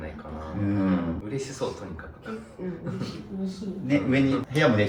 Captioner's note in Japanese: 咳払い